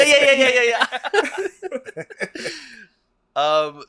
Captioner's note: laughs